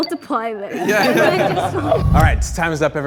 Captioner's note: group laughs